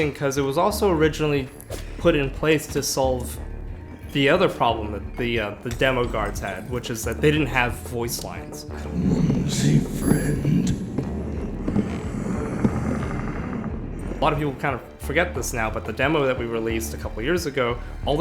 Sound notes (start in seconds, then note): 11.5 footsteps clacks; 11.6 Huntsman 1 grunt